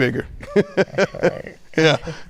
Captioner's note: laughing